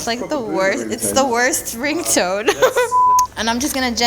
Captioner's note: beep